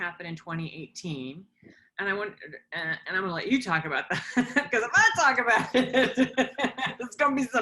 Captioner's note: laughter